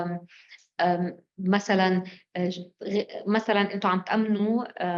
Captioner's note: speaking arabic